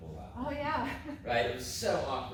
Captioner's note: laughs